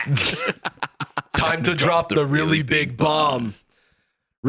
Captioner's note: laughs